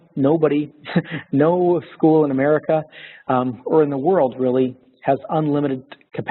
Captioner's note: laughter